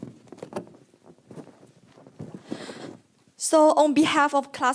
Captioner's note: mic static